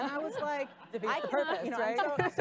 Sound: laughing

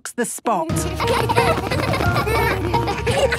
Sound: laughter

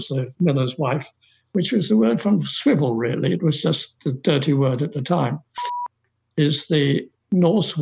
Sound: beep

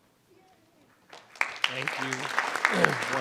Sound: audience applauding

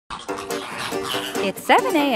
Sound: squawking

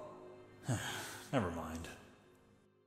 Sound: sigh

